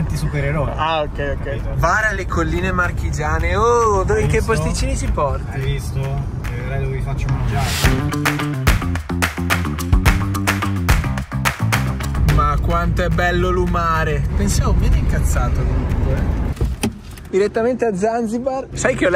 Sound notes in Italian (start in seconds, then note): 8.3 Applauso